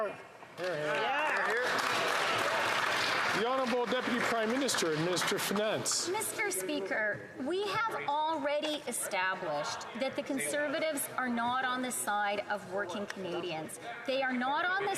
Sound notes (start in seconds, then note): 6.7 some Applause